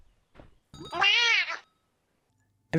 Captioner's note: maow